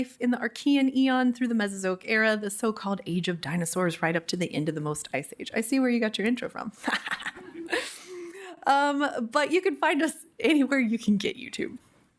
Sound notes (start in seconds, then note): 6.9 laughs